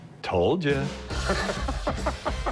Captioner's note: laughs